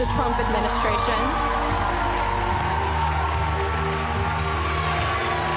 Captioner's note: applause